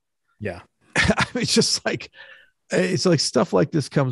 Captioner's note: chuckles